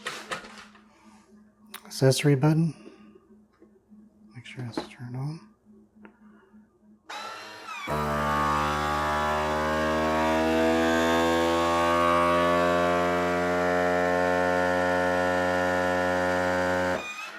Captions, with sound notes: accessory button make sure it's turned on [vacuum sealer sound]